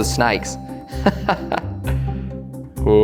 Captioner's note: laughing